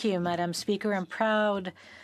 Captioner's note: speaking French